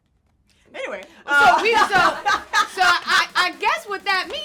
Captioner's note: all laugh